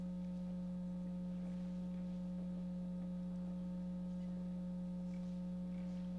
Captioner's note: none